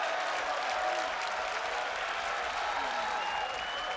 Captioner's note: crowd cheering